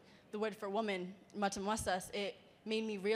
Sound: speaking in a foreign language

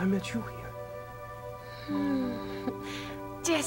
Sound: Veronica swoons

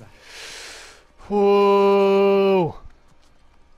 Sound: deep breath

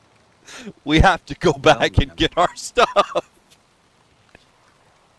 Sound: laughter

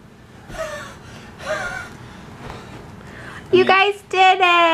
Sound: wheezing

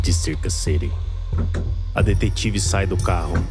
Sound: car door opening

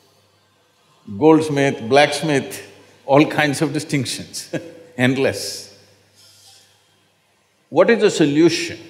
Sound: laughs

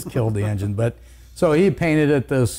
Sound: laughs

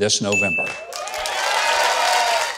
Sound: audience cheering

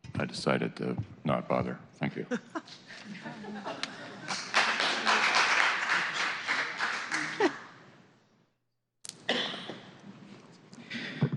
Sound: applause

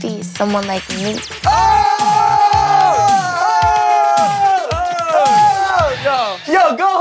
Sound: all cheering

